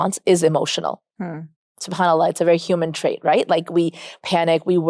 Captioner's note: speaks Arabic